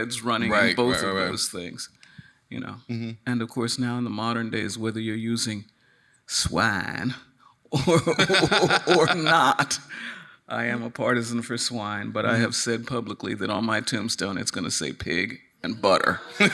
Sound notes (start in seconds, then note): 7.8 laughing